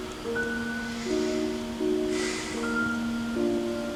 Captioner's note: inhales and Exhales Deeply